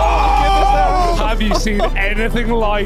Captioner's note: commentators shout